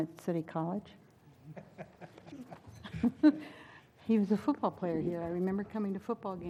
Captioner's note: laugh